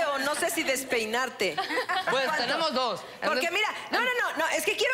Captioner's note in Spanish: Risas